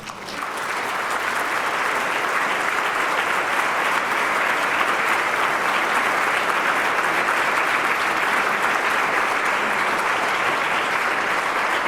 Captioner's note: applause